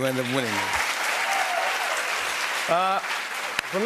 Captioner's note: cheers and applause